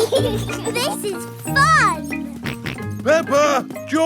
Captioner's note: both laughing; george snorts